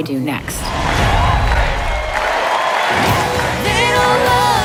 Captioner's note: audience cheering